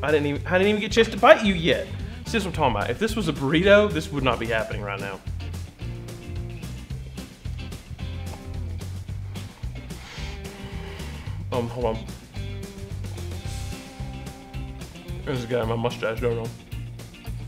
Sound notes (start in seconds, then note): 5.8 playful upbeat music; 10.6 deep exhale; 12.7 bright upbeat music